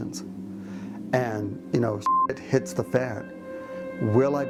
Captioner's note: beep